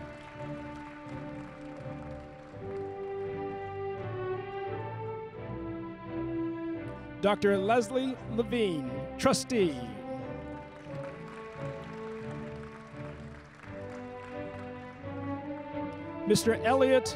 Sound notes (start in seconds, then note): 9.2 applause